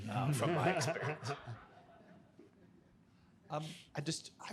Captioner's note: audience laughing